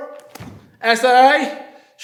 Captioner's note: snapping